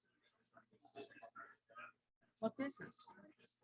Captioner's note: people chattering indistinctly